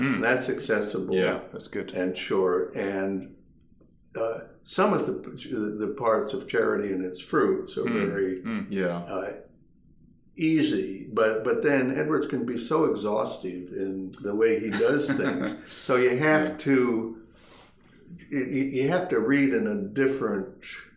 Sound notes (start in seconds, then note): 14.6 laughing